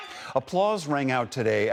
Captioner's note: cheering